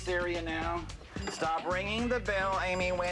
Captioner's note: bell ringing